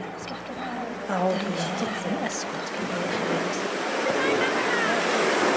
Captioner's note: raindrops spattering